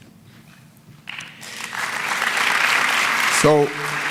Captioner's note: applause